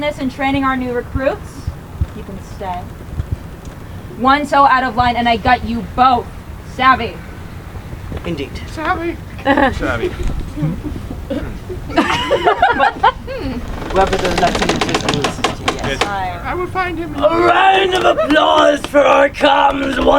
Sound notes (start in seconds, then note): 12.1 audience laughing; 13.8 people chattering